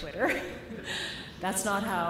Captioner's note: laughter